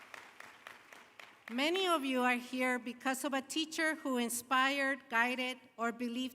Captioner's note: applause